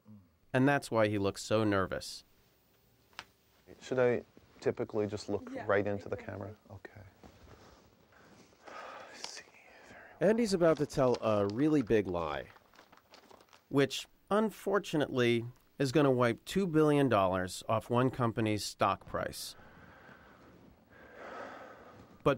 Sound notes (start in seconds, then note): 8.6 sighs; 19.3 sighs nervously